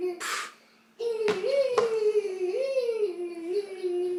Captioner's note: baby mumbling